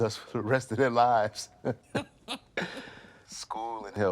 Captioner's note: both laughing